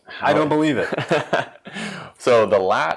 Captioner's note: laughs